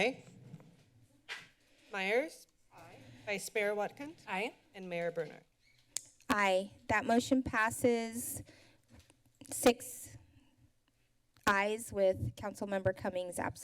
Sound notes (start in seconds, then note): none